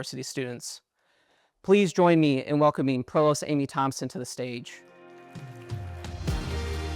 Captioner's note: applause